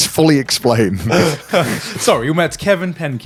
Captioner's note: all laughing